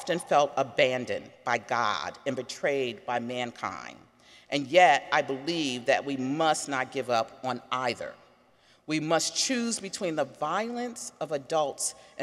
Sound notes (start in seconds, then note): none